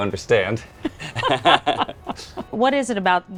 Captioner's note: both laughing